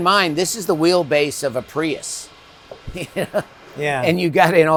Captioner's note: chuckles